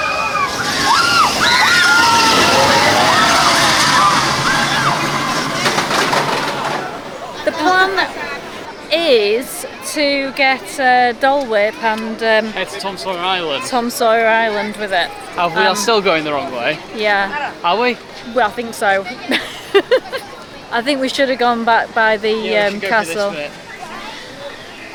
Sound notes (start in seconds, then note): 0.0 excited screams; 5.9 sound of brakes